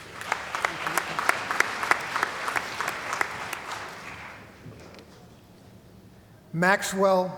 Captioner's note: applause